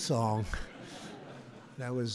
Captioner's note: laughter